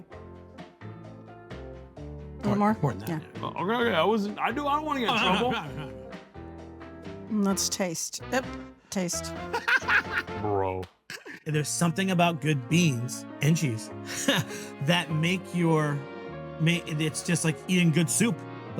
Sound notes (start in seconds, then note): 0.3 soft upbeat music; 6.2 soft upbeat music; 8.2 tuts; 9.4 laughs; 9.5 laughs and claps; 14.1 laughs